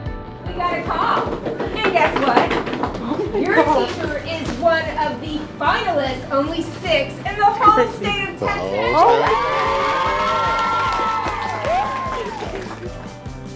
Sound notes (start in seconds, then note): 2.1 students drum rolling on desks with hands; 8.6 cheering; 8.9 clapping